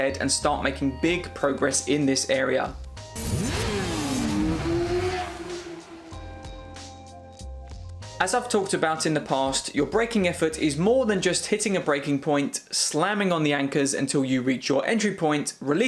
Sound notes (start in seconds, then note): 3.0 upbeat music; 3.1 motorcycle engine roars